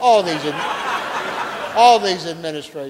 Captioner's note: audience laughing